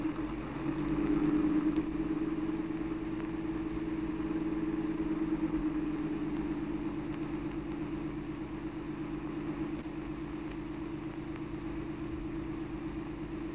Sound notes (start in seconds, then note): none